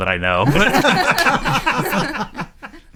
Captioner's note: laughing